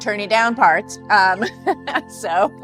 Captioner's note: chuckles